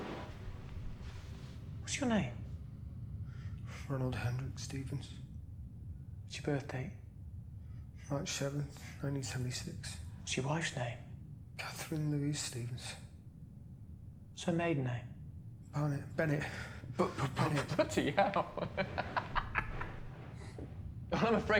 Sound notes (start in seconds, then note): 17.2 stammers; 20.3 laughs